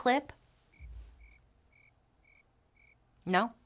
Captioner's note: crickets chirping